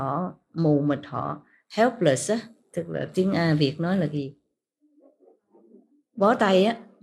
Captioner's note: Vietnamese